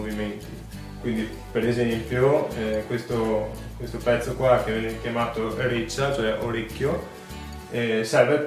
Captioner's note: in venetian